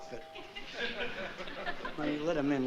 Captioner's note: laughter